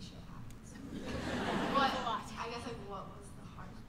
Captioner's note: laughter